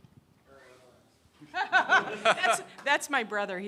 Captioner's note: laughing